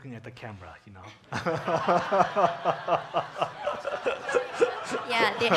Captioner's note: audience laughing